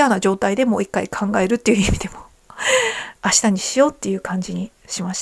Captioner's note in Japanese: 息をのむ音